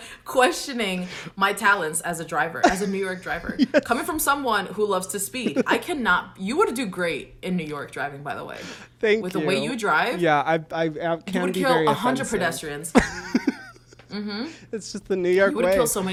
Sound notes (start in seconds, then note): 12.9 laughs